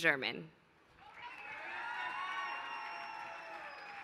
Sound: applause

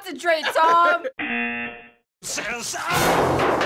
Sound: laughs; buzzer

